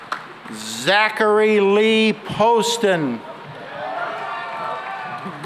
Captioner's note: cheering and applause